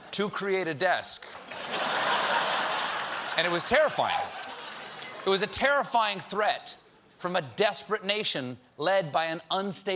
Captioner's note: laughter